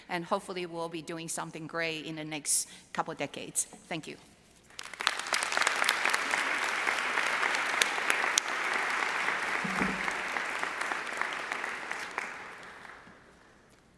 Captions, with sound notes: And hopefully we'll be doing something great in the next couple decades, thank you. (audience applauding)